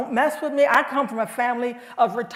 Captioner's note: none